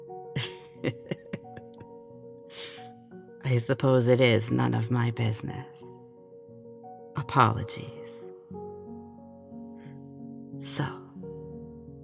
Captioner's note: laughing